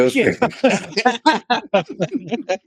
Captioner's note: laughing